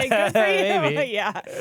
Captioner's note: laughter